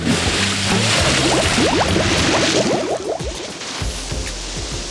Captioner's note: water splashing; bubbles